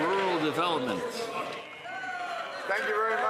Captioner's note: some Applause